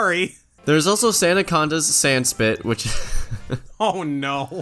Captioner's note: laughs